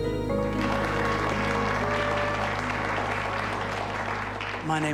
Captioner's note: audience applauds